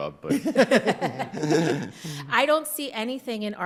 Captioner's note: all laughing